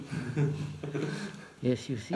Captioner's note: laughter